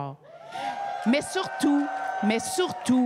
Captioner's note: cris et applaudissements